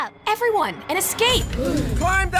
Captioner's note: gasp